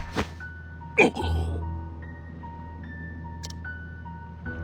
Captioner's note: cough